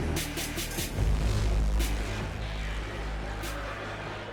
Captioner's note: indistinct club noise